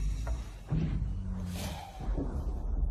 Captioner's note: snoring